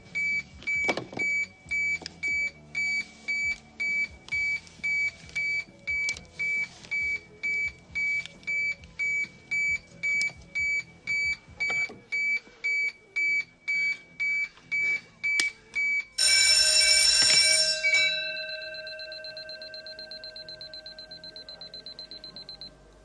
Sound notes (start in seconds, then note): 16.1 alarm bell; 18.5 alarm sound tapers off